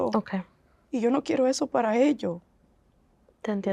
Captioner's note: Spanish